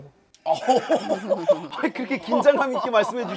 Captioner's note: hahahaha…